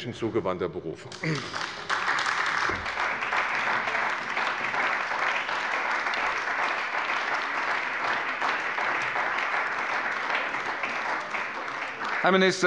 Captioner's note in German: Beifall bei der CDU und dem BÜNDNIS 90/DIE GRÜNEN